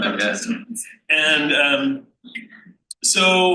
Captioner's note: panel laughs